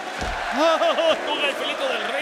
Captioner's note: laugh